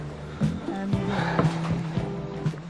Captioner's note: Noreal sighs